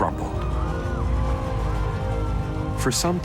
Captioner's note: crashing and screaming